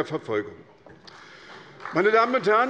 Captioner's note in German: Beifall bei der SPD